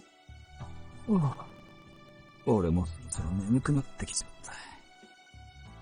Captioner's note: yawn